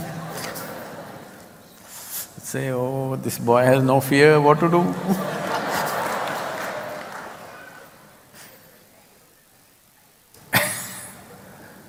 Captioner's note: laughter; laughter/Applause